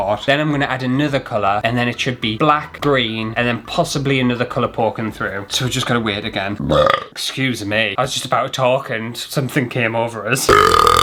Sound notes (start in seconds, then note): 7.0 burp!